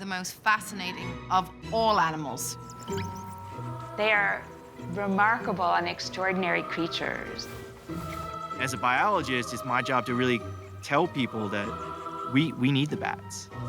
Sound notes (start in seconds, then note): 2.4 squeaking